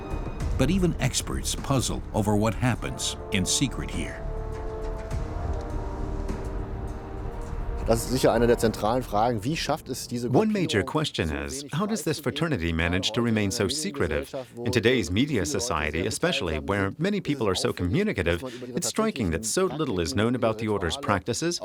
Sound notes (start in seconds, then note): 7.8 speaking in German